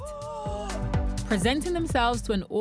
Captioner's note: gasping